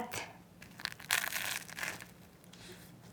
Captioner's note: crispy crunching